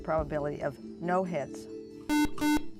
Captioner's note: buzzer